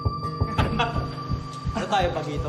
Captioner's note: pensive music playing; laughs